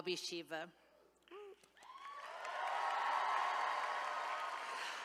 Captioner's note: attendees cheering